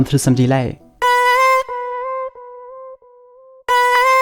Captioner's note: voice sample playing